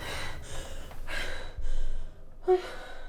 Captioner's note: gasping; heavy breathing